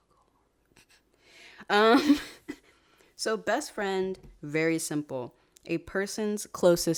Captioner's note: laughs